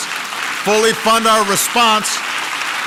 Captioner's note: applause